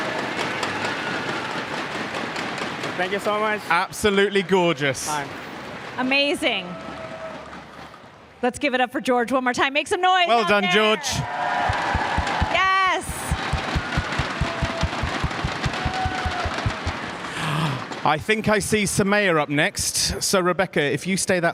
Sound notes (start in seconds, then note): 5.4 cheers and applause